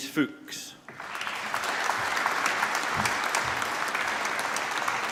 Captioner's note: applause